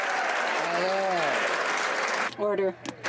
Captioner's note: applause